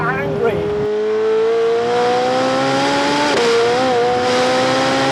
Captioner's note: engine intensely revving